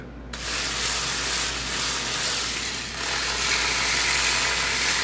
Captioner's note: machine whirring